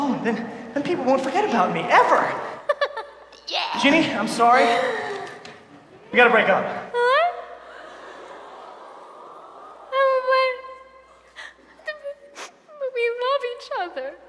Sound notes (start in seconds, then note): 7.0 audience awww's; 12.3 sniffling